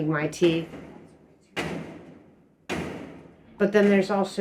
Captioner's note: loud bangs